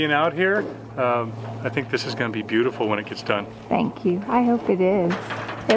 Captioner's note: drops a tool in the background